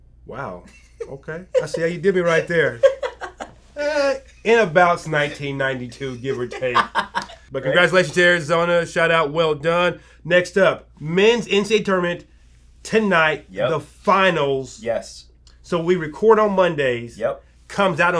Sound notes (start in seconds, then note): 1.5 laughs; 5.0 laughs